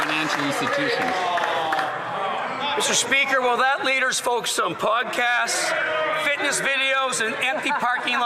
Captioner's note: some Applause